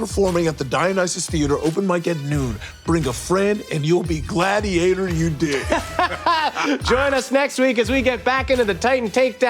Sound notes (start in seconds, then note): 5.4 Baubby laughs